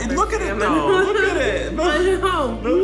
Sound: laughs

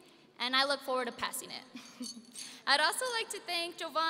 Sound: laughing

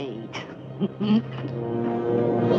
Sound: chuckling

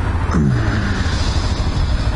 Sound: groan

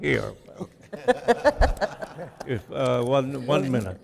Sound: chuckling

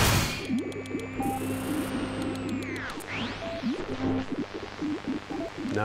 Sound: digitized beeping

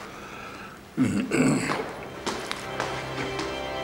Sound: clears throat

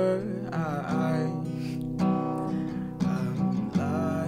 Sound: Bz sniffing

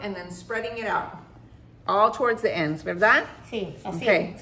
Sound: Spanish

